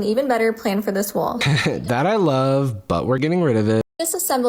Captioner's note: laughs